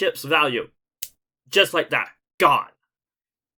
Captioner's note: snap